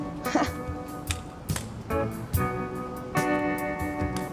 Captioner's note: chuckling